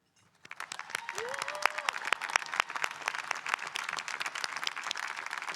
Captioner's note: audience applauding and cheering